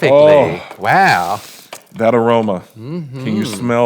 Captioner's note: sniffs